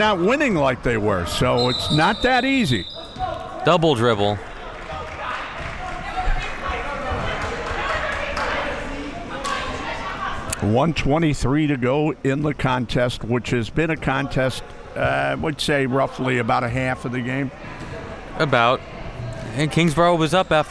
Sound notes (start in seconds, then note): 5.5 spectators chattering